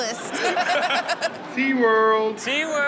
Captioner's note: audience laughs